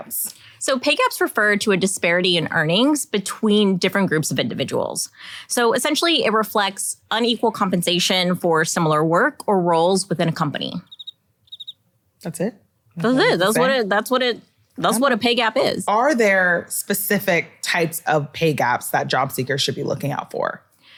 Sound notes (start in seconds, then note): 11.4 birds chirping